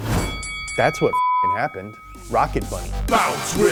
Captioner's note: beeps